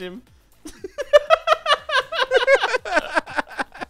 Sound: laughs; laughter

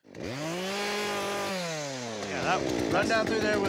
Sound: chainsaw starts

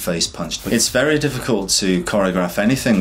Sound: air whooshes

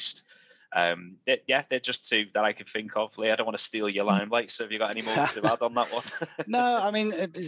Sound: laughs

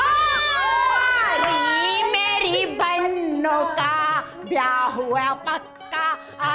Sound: sing-song

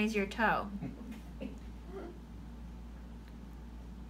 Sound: laughing

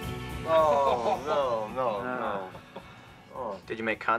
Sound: laughing

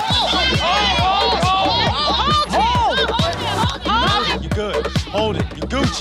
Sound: contestants yelling

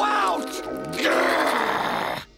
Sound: growling

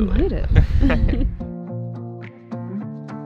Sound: chuckle; relaxed acoustic music

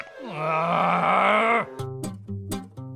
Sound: laughs; Canned Cheeseburger groans; upbeat music

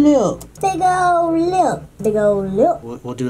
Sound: higher pitched

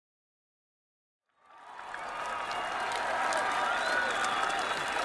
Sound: audience cheering

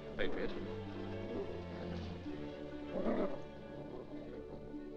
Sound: ominous music; dog growls

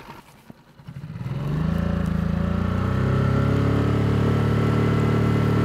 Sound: boat motor roaring

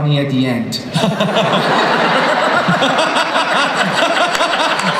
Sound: everybody laughs

